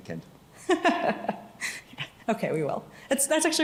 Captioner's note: laughs